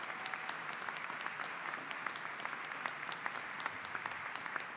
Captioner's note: applause